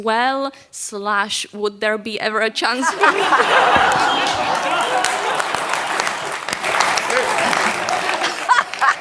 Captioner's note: laughter and applause